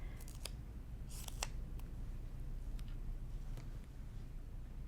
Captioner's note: scissors snipping